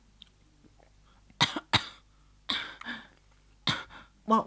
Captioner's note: Haggis coughs while choking